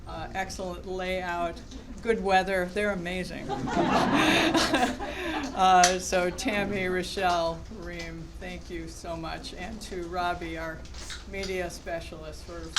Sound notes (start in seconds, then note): 3.4 laughter